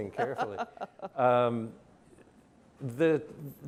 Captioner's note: laughs